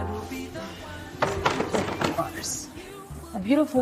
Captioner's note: objects clattering